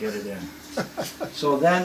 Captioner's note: laughs